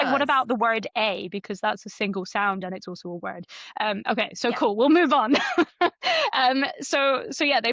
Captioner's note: laughs